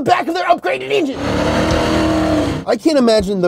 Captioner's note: tires screaming